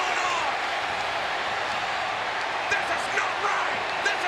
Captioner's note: crowd jeers